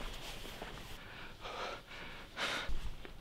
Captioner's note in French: Respirations Accélérées